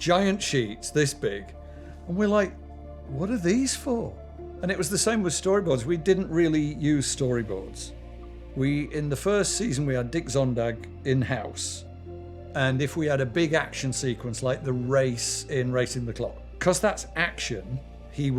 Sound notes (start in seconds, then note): none